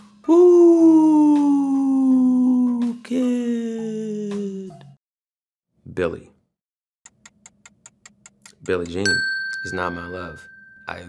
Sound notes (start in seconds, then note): 7.1 clock ticking; 9.0 dings